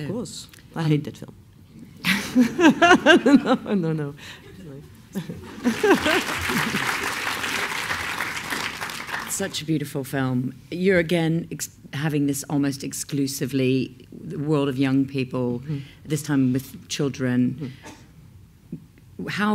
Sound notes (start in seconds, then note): 1.7 laughs; 5.6 applause